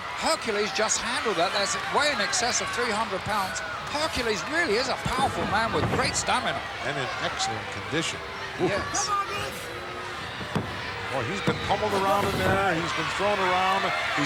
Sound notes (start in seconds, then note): none